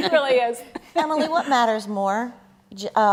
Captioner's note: laughter